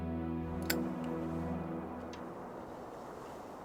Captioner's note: lighter clicks; traffic whirring